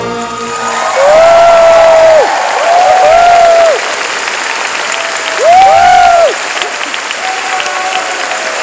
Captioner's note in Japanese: 拍手